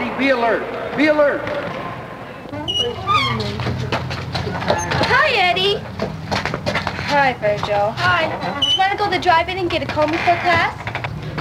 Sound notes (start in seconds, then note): 3.3 feet running up steps